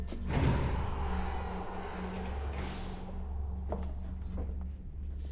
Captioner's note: elevator door whirring